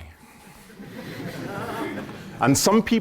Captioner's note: laughter